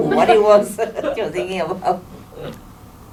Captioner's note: judges laugh